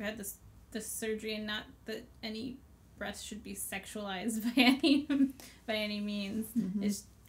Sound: laughs

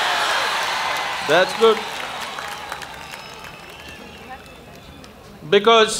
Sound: applause

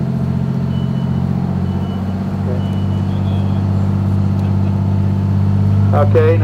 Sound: beeping

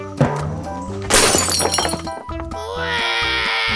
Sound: glass breaking; baby crying

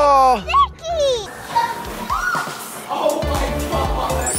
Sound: shrieking

